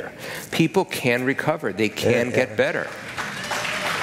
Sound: applause

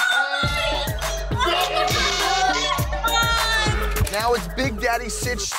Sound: upbeat music; people cheering

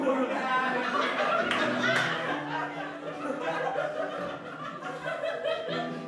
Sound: laughter

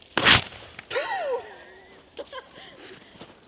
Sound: laughs halfheartedly

